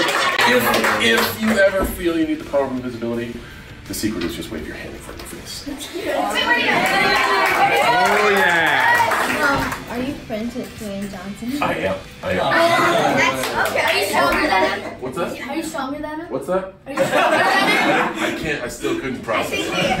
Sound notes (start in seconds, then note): 6.4 cheering